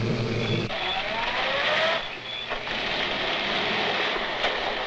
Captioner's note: engine rumbling